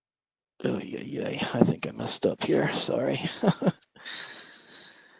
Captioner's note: laughter